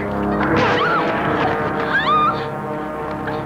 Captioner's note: shrieks